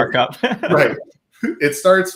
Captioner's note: laughing